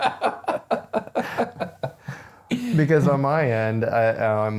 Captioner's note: laughing